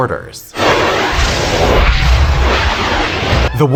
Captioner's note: wormhole Noises